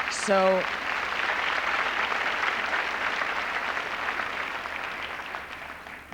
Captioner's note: applause